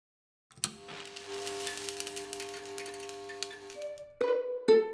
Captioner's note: electricity crackles